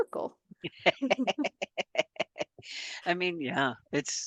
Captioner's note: laughs